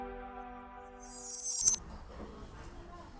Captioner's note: glass ringing; people chattering